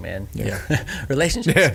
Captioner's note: laughing